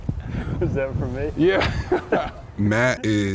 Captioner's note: laughs